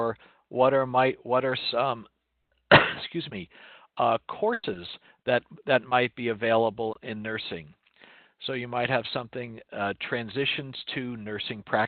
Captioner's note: cough